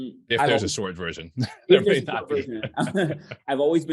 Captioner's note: chuckles